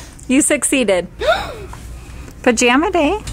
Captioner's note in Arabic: تلهث